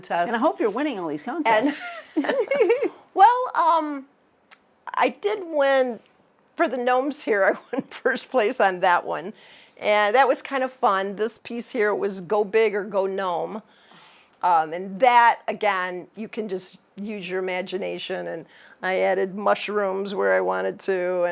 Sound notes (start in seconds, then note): 1.6 both laughing